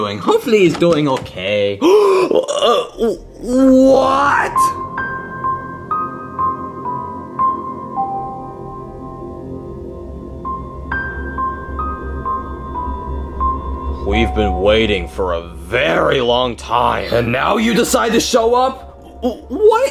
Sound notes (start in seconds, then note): 1.8 gasps; 5.0 curious music